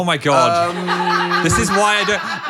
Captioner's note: crew laughs